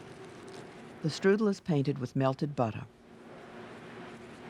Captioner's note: voiceover